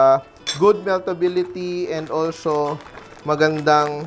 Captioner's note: clink